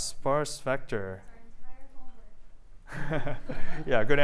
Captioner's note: laughter